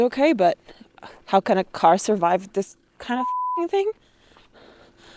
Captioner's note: beep